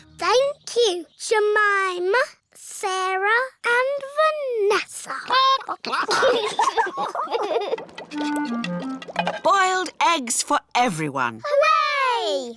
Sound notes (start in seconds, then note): 5.2 children giggle; 5.4 chickens chatter